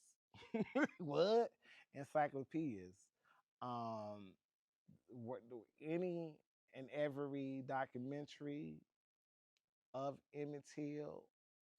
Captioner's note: laughs